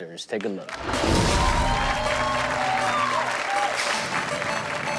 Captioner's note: audience cheers; funky music